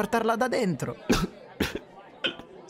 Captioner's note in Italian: Tossisce